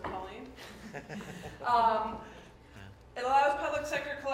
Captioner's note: laughter